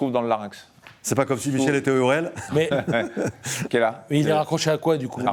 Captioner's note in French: rires